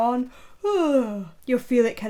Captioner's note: yawns